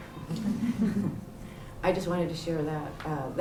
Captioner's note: chuckles